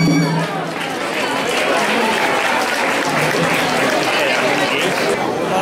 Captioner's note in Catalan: Aplaudiments